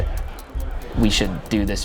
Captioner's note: ticking